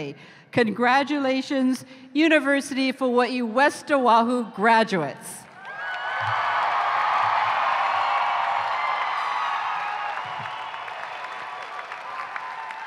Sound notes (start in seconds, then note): 5.5 cheering